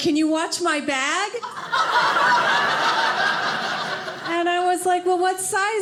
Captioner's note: audience laughing